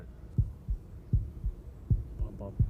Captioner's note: heartbeat